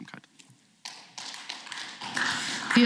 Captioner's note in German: Beifall